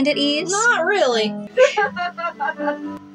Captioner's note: Bingo Laughs